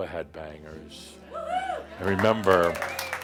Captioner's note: someone shouts “Woo hoo!” and audience applause